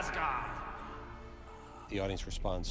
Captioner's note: breathing hoarsely